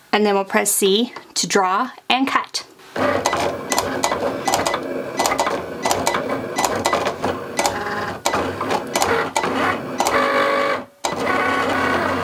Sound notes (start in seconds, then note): 2.9 Cricut machine whirring; 3.0 Cricut machine beeping